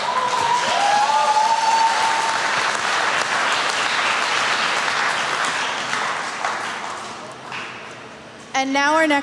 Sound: applause

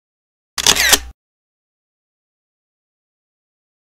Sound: camera shutters

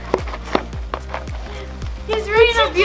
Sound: pinata crackling

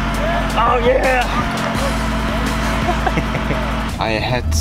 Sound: both men laughing

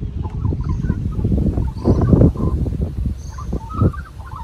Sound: wind blows audibly into microphone

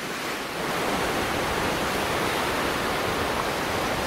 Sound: waves crashing

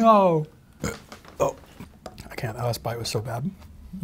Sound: burps

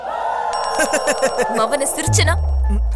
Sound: laughs

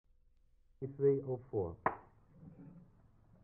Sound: clap

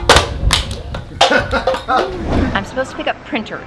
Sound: laughing

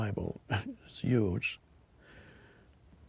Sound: chuckles

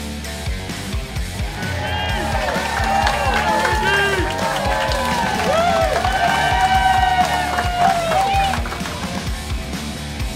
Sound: cheering & Clapping

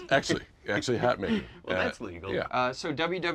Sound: laughs

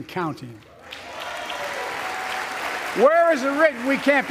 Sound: applause

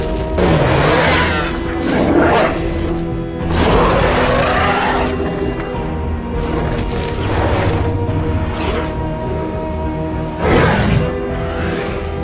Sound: carnotaurus growls

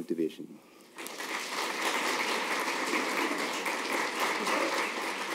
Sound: applause

